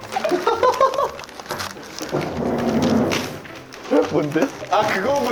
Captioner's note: laughing